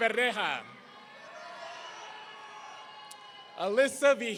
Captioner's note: audience cheering